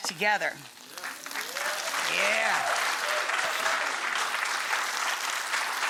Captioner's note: audience applause